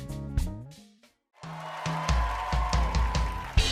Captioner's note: funk plays; cheering and applause